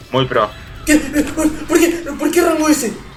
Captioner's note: hyperventilating